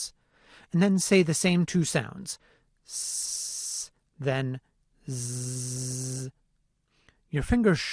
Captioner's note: ssssssssssssss